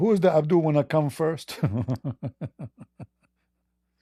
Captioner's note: Ketawa